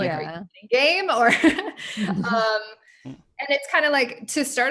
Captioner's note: laughs